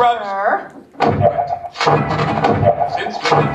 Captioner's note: portal gun fires